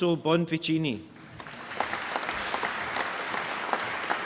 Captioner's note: applause